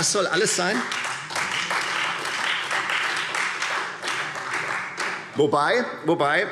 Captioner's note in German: Beifall